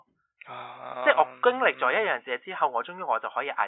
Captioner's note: chants